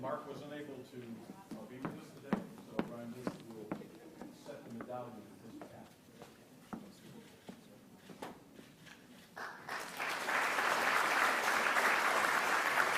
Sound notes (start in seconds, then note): 8.6 cameras clicking; 9.3 audience clapping